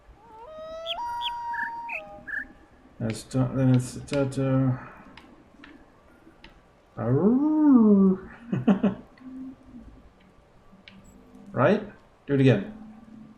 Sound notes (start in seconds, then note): 0.0 coyote howls ˩˧˥˥ ˧; 0.2 bird chirps five notes; 5.6 imitates howling and chuckles